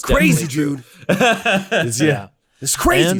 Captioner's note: laughing loudly